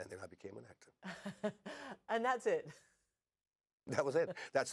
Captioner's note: chuckling